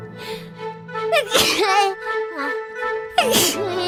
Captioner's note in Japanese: くしゃみ